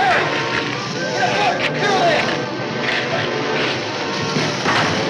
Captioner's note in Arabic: صراخ مكتوم